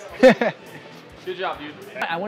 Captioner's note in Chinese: 笑声